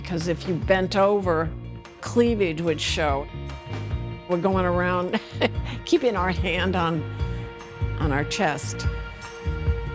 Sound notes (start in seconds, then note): 5.7 laughs